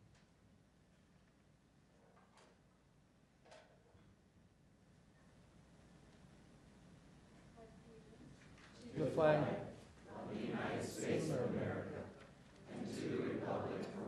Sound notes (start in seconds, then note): 3.2 moment of silence